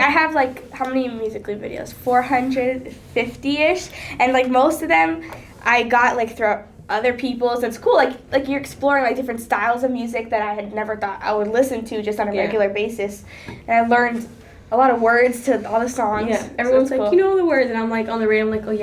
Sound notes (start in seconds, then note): none